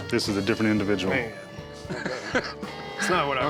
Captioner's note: Rick laughs